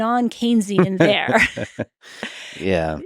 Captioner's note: Lex laughing